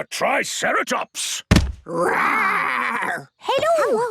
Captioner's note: thudding